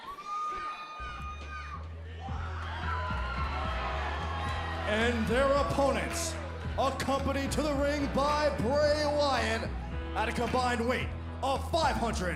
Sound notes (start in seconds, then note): 1.2 crowd chatter; 2.9 crowd cheering